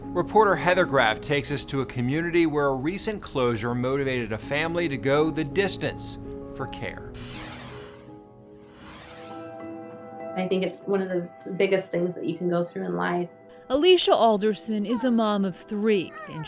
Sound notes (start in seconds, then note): 7.3 gentle music; 7.3 screen whooshing